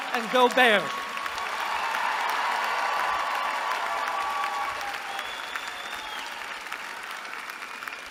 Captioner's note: applause